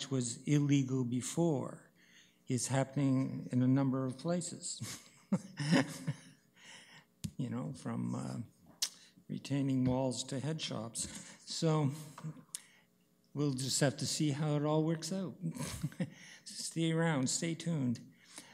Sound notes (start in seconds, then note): 5.2 laughs